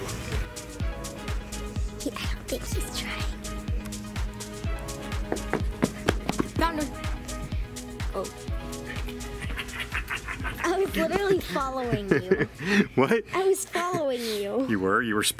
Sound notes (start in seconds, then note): 9.0 man laughing